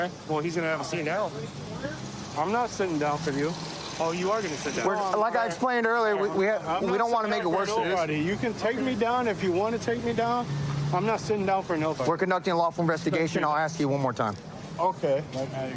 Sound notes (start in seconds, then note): none